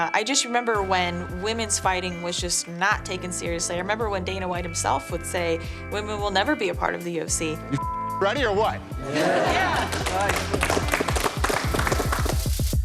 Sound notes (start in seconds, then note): 6.6 applause